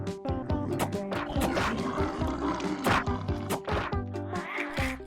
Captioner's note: growling